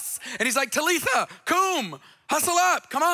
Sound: speaks in foreign language

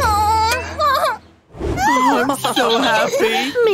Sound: groans

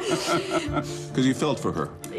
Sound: laughs

